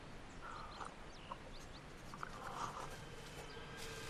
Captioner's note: birds chirping